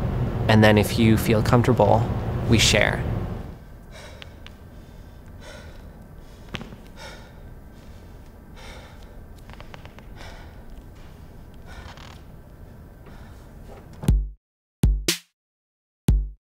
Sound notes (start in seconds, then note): 4.1 breathing